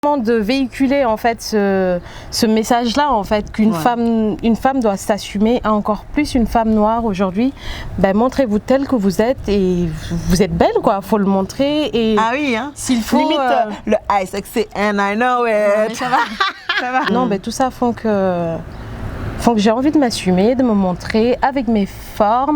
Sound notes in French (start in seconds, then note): 12.9 rires; 15.8 rires